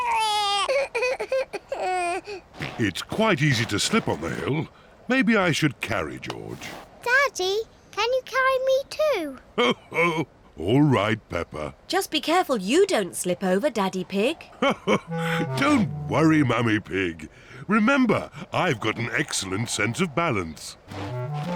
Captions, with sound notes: It's quite easy to slip on the hill. -Maybe I should carry George. -Daddy, can you carry me, too? -Oh, all right, Peppa. -Just be careful you don't slip over, Daddy Pig. (LAUGHS) Don't worry, Mummy Pig. Remember, I've got an excellent sense of balance.